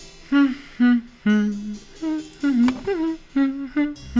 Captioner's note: humming